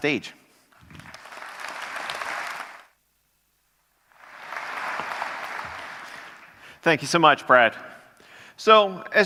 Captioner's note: applause